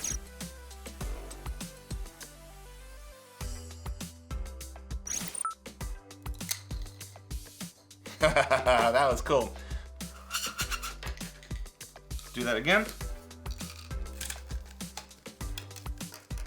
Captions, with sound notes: (straws popping) (laughing) That was cool. (air whooshing) Do that again. (bright upbeat music)